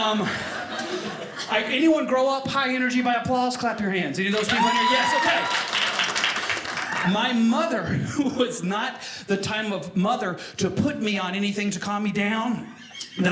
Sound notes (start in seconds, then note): 4.2 audience clapping